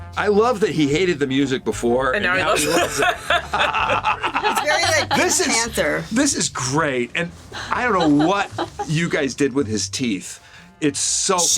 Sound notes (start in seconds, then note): 2.2 laughs